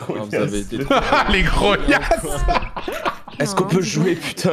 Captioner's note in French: rires